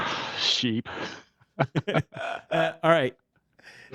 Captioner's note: laughs